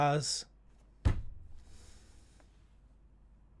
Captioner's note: pounds desk